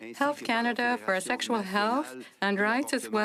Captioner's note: speaking French